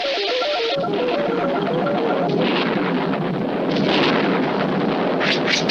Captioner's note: thunder Strikes